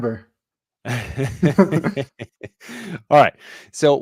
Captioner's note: chuckling